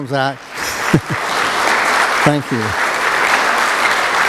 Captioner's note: applause